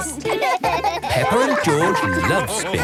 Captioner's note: both laugh